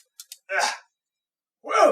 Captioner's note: grunt of exertion